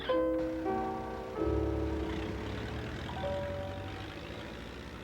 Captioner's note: engine rumbling